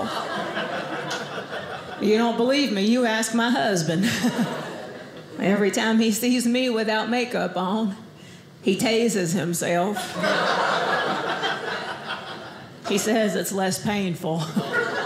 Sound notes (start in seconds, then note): 0.0 audience laughing; 10.0 audience laughing